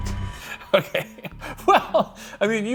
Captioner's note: laughs